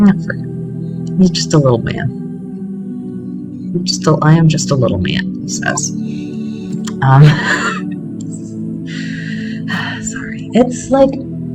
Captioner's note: laughter